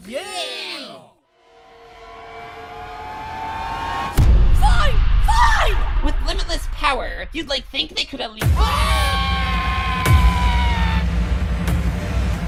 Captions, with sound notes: YAY! FINE! FINE! With limitless power you'd, like, think they could at least— [SCREAM]